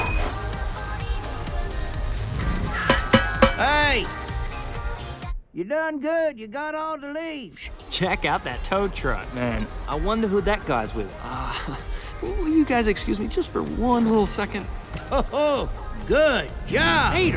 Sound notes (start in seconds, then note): 2.5 knocking on glass; 11.3 laughs nervously